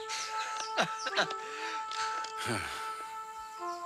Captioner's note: laughs